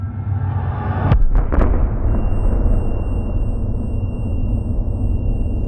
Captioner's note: loud explosions